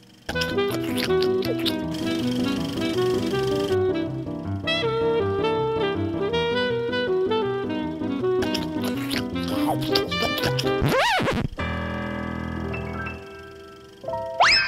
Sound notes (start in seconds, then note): 0.1 vaudeville music; 0.3 chewing; 8.4 chewing